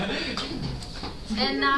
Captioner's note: laughter